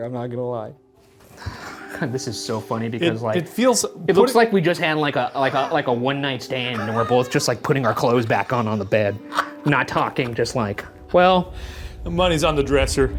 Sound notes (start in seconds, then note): 9.2 Shane laughs